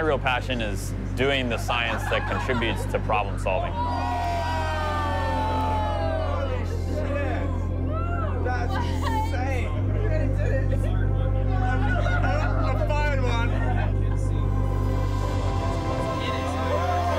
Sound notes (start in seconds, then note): 10.6 cheering, laughing